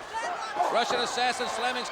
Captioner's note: crowd chatter